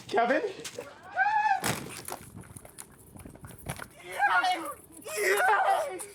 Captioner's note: screams